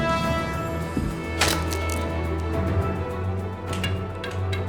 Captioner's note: intense dramatic music; sticks snaps; intense dramatic music